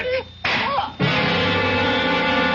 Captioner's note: gunshot; dramatic music